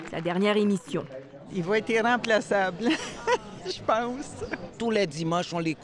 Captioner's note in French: rire